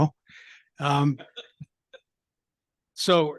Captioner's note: laughs